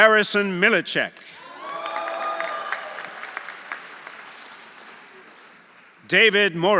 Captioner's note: audience applauding; audience cheering